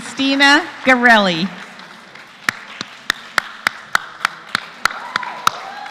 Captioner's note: applause